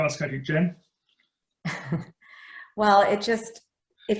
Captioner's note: laughs